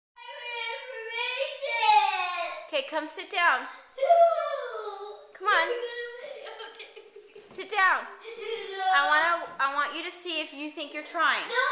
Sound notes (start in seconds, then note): 1.0 crying; 4.0 crying; 6.3 crying